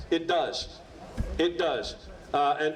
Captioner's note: none